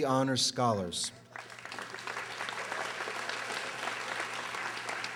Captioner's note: audience applauding